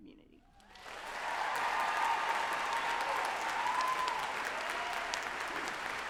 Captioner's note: group applauding and cheering loudly